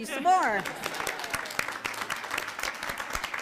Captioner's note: applauding